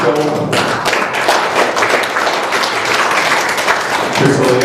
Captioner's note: applause